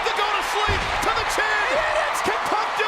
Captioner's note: crowd cheers